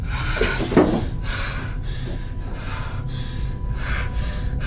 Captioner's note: intense breathing